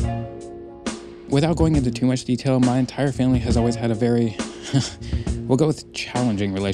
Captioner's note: chuckles